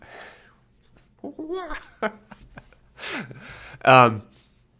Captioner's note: laughs